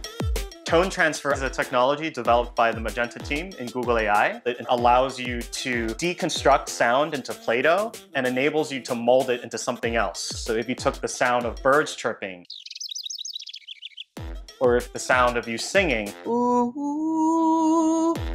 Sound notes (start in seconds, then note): 12.4 high twittering chirps